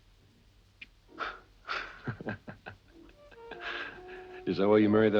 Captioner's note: Christian laughing